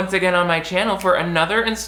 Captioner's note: snaps